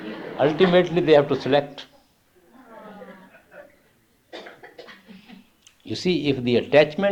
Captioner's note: laughter